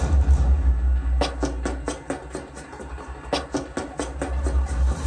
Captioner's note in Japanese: 走る足音：タタタタ...！